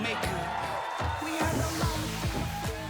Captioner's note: crowd cheering